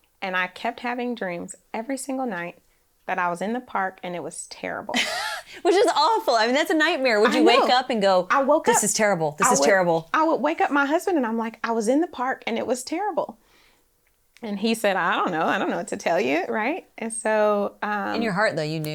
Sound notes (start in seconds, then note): 7.1 laughs